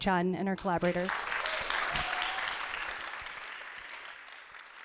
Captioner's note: audience applauding